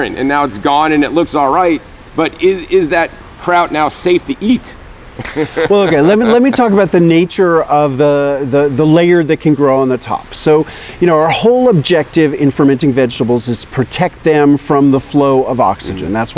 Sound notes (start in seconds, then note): 5.1 laughs